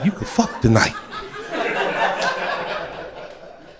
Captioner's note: crowd laughter